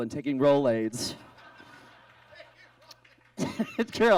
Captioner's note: audience laughs